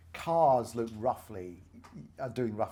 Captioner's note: none